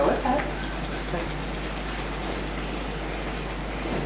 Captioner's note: tapping